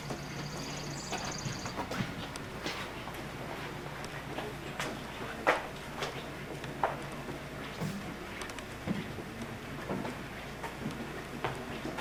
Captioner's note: footstep sounds on concrete floors